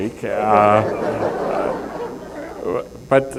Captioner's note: laughter